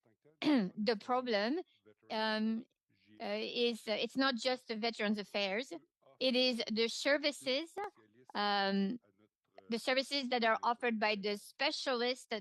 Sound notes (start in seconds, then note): 2.3 speaking French